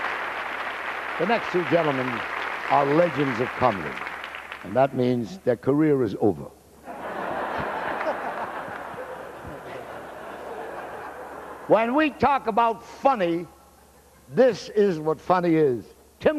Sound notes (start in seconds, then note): 6.8 laughter